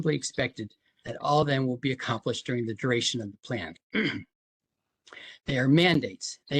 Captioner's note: cough